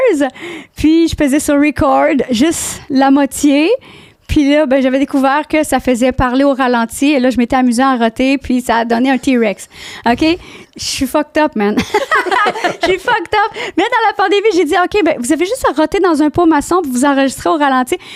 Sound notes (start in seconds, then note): 0.2 in french; 11.8 laughing; 12.8 in french